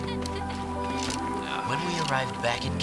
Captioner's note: laughing